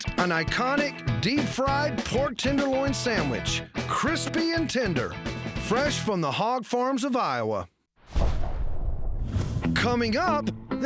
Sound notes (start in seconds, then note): none